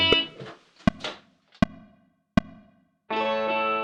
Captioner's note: metronome clicking